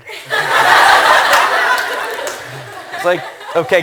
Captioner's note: laughter